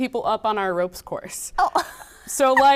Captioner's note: laughing